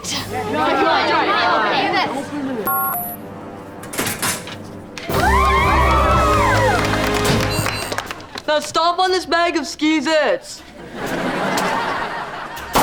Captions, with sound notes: [cheering] [cheering] Now stomp on this bag of Skeez-Its.